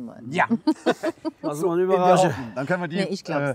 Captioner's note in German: lachen